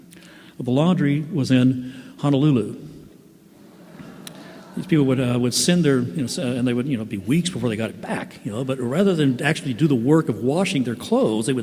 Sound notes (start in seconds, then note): 3.5 laughter